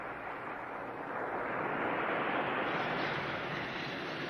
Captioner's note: waves rumbling